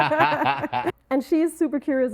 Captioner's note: both laughing